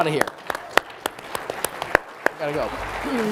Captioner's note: audience applauding